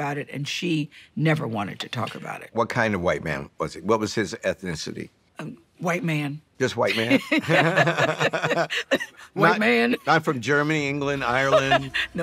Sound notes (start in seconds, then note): 6.9 both laughing